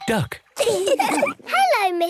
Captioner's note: all laugh